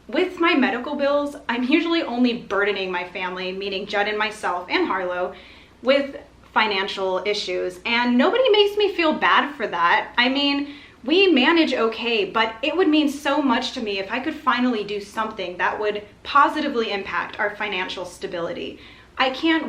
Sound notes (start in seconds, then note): none